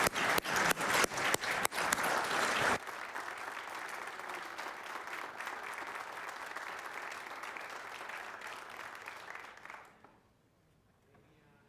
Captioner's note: cheering and Applause